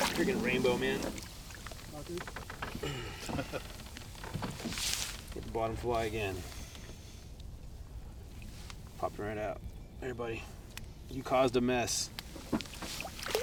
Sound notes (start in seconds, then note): 2.8 sighing; 2.8 chuckling